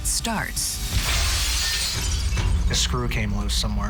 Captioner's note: glass shatters